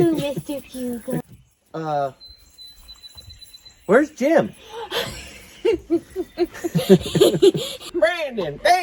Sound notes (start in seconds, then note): 3.3 laughs